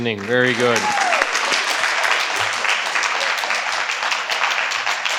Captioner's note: participants applaud